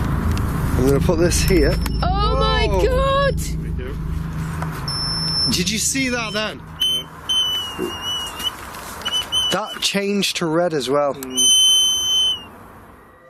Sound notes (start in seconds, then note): 7.2 energy detector device beeping and whistling